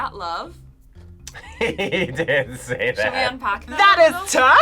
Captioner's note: laughs